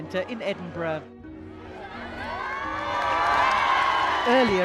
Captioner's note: crowd cheering